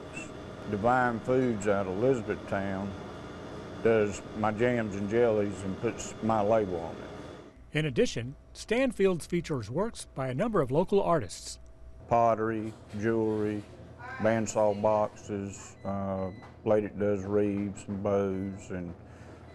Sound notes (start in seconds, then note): 7.7 voiceover